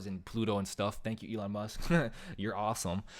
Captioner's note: chuckles